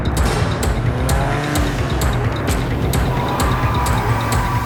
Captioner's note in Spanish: Ruido del vehículo